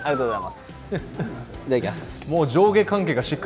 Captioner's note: hahaha